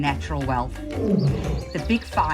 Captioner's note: lion grunts